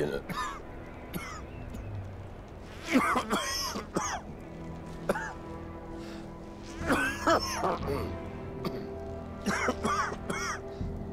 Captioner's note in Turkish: Öksürük sesi